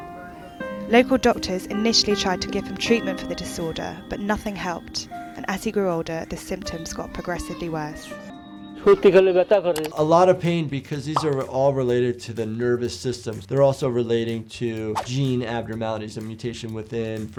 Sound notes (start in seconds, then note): 8.7 speaking in foreign language